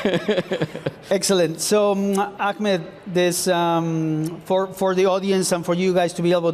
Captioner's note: laughs